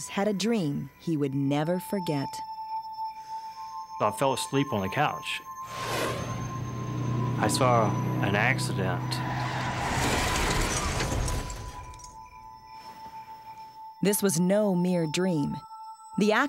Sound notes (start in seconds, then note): 9.0 crash